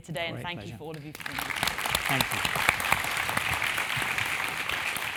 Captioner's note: applause